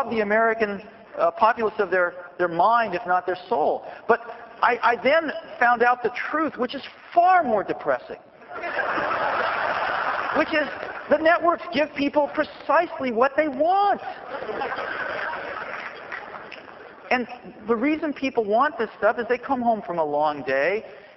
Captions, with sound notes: the American populace of their mind, if not their soul. But I then found out the truth, which is far more depressing [laughter], which is the networks give people precisely what they want. [laughter and clapping] And the reason people want this stuff is they come home from a long day.